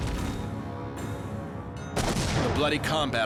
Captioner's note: explosion